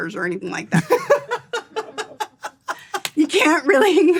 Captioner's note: laughs